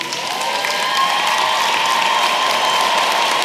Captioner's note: applause